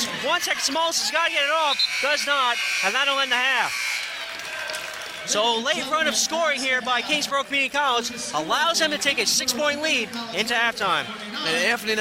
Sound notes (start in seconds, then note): 1.6 buzzer sounding